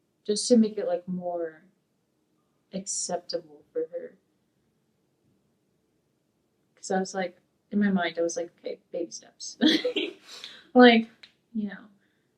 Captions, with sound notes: just to make it more acceptable for her, 'cause in my mind I was like, okay, baby steps. (laughs)